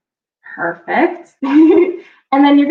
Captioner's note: laughs